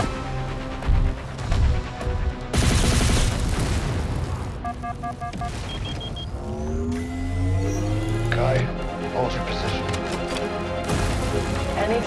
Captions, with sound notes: [beeping continues] Kai, hold your position.